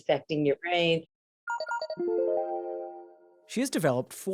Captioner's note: device chiming